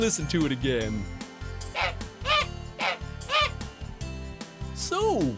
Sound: sound of a goose

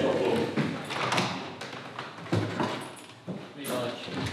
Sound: mechanical clunk of lock turning - door opens; muffled chatter

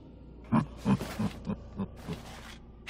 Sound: chuckling

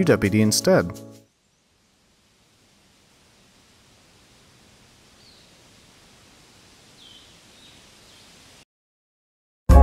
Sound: awkward silence

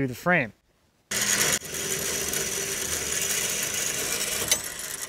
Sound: machine rattling

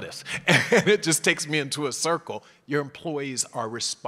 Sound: laugh

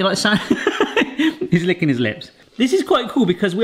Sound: laughs

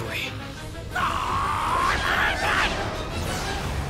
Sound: screaming

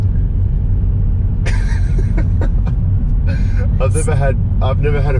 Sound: laughs

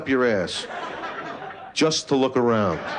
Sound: laughter

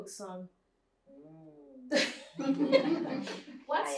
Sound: laughter

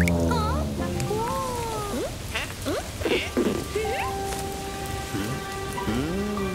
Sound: sound of rain; puzzled sigh

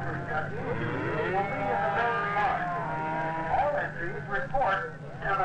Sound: irritated mooing

